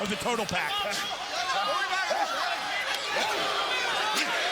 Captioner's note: crowd chattering